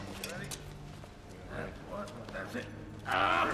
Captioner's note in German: Grunzen